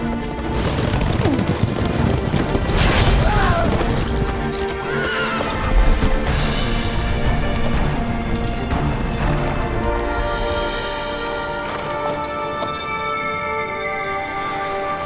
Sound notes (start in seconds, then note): 3.2 cries out; 4.4 horse neighs